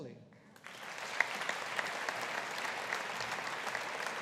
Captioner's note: audience applauding